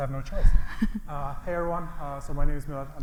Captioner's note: giggles